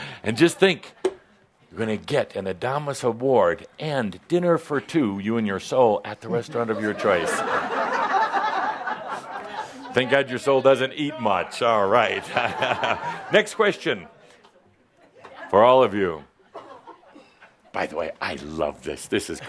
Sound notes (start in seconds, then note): 6.3 laughter; 13.0 Adamus chuckles